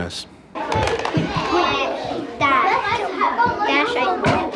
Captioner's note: classroom noise